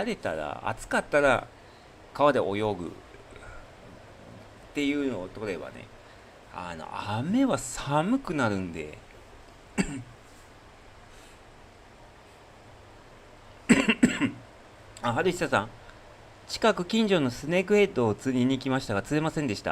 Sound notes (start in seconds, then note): 13.6 clears throat; 13.6 cough